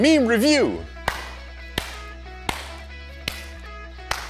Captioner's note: several claps